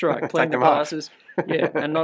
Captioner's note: chuckles